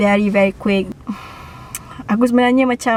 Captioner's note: sighs